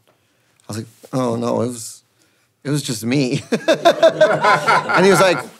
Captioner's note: laughs